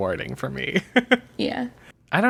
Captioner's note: laughs